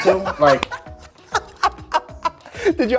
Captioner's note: laughing